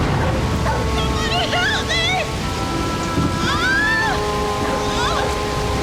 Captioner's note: yells